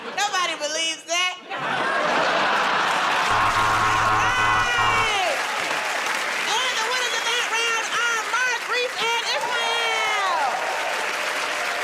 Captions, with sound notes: -Nobody believes that. [ Laughter ] [ Buzzer ] All right! And the winners of that round are Mark, Rhys, and Ismael. [ Cheers and applause ]